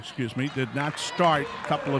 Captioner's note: clapping